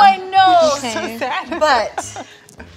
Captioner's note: laughs